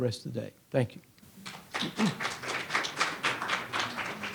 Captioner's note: audience applauds